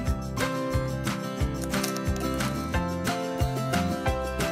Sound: egg crack

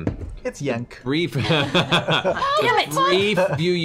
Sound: laughter

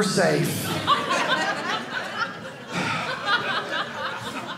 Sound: audience laughing

